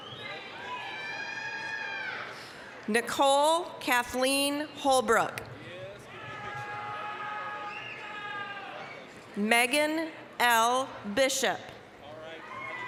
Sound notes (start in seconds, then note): 0.1 applause, cheering; 5.8 applause, cheering